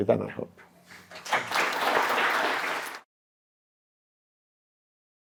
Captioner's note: applause